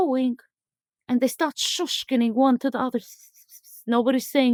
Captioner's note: whispering